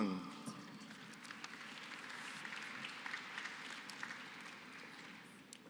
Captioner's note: applause